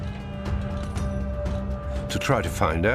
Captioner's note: soldiers shouting; mystical music